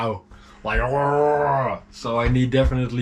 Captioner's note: imitating sea cow growl